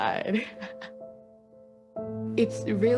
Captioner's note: chuckles